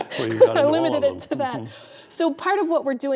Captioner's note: laughing